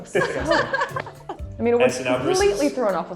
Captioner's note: laughing